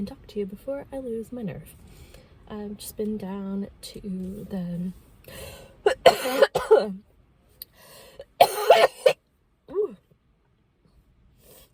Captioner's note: coughs